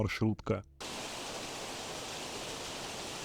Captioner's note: water noise